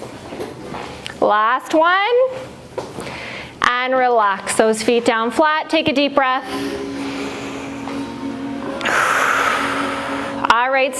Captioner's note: breath